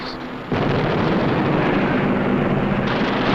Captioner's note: booming